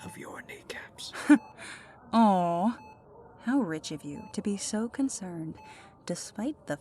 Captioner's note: small Laugh